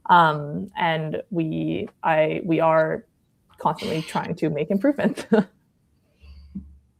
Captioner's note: laughs